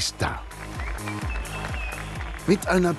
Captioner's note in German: Applaus, Pfiffe, rhythmische Musik